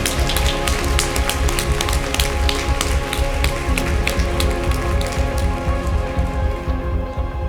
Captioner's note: applause